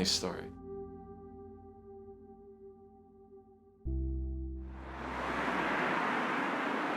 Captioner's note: soft music; traffic moving